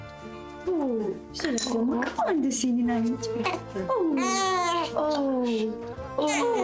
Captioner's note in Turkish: Bebek ağlıyor